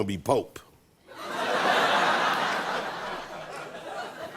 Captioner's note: laughter